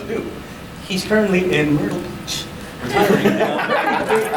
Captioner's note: laughter